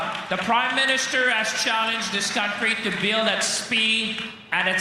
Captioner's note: applause